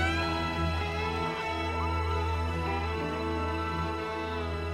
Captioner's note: women cheering